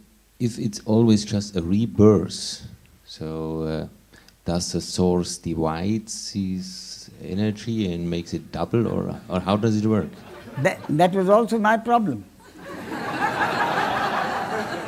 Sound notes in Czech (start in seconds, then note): 10.1 smích; 12.4 smích